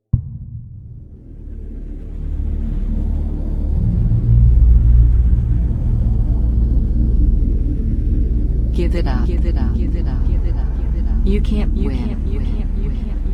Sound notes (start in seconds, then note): 0.1 tense ambient music; 10.4 voice echoing